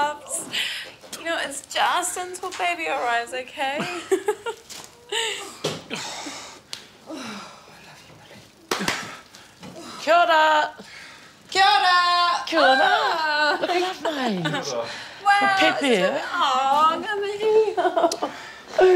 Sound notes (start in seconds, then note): 5.1 laughs; 7.0 sighs